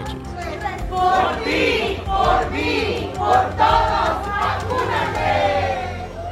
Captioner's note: speaks foreign language; people cheering